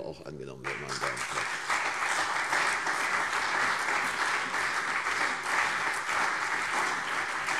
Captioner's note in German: Beifall CDU und BÜNDNIS 90/DIE GRÜNEN